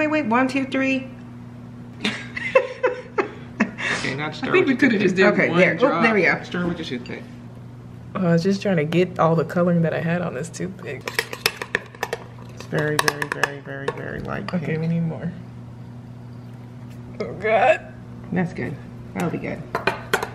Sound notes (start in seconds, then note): 2.0 laughing; 11.0 stirring